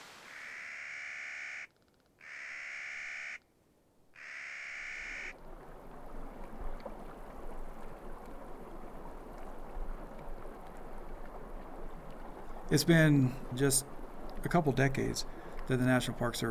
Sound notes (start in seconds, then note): 0.1 Clark’s Nutcracker call; 4.7 gurgling stream